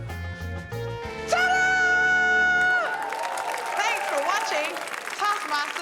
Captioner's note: cheering, applause